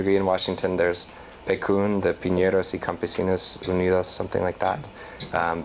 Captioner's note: non-english